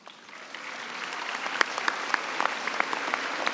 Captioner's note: applause